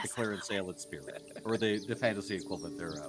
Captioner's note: Cornette laughs